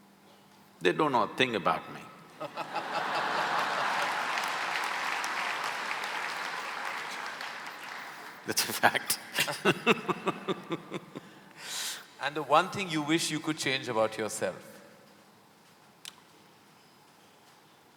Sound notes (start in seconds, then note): 3.3 laughter/Applause; 8.5 both laugh